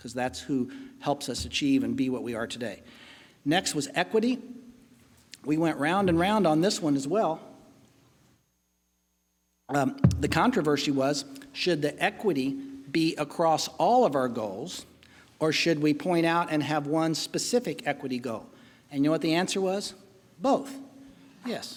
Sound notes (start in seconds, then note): none